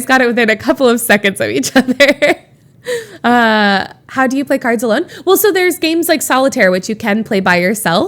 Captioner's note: Emma laughs